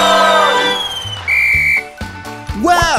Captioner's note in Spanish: Sonido de silbato